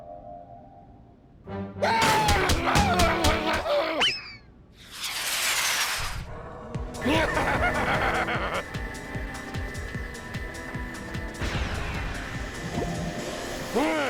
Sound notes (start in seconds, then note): 2.0 upset growling; 6.9 evil laughing; 12.4 suction noises